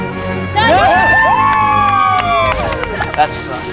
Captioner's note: cheering